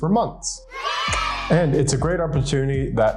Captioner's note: kids cheering